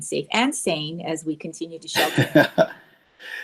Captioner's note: chuckling